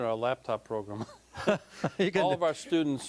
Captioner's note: both laughing